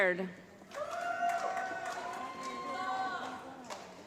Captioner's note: applause